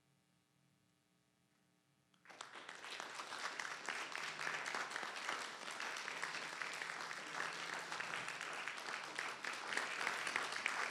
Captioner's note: applause